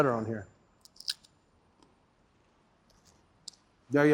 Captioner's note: crunching sound